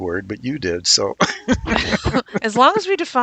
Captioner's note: laughs